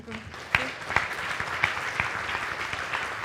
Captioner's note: applause